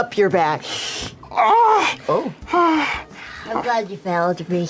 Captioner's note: sighs